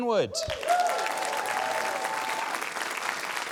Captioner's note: cheering, applause